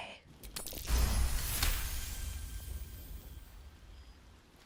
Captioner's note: successful dice roll sound effect